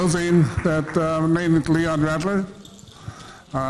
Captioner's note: speaking foreign language